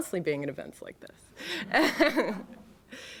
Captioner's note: laughter